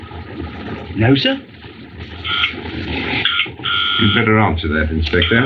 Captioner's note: phone Buzzing